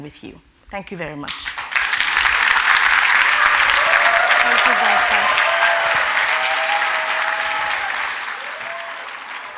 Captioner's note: applause